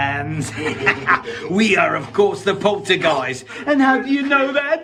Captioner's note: laughs